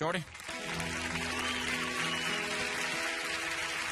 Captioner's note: audience applauding